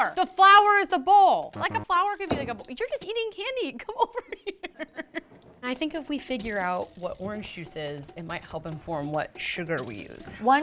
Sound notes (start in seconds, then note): 3.8 laughs